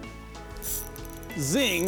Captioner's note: fishing reel spinning